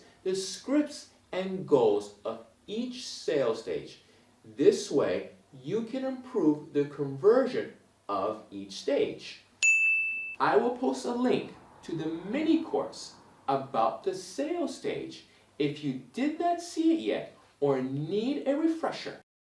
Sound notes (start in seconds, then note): 9.6 bell rings